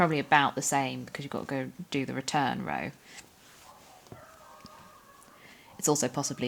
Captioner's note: dog starts barking in background